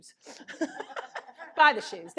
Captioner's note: laughter